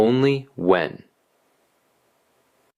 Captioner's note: pause